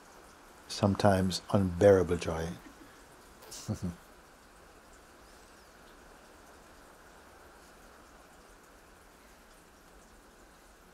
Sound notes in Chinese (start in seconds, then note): 4.5 沉默